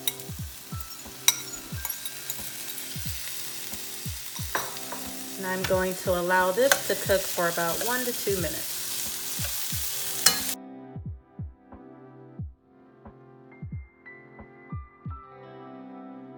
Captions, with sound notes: [fork clanging against bowl] [veggies sizzling] And I'm going to allow this to cook for about one to two minutes. [sizzling]